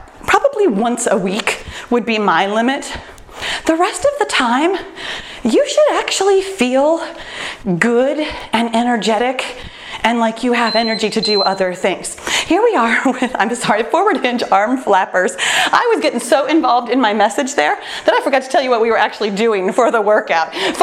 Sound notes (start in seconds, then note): 10.6 timer beeps